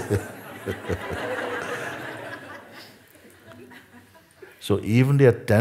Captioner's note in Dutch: gelach